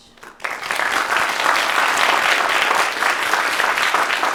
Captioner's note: applause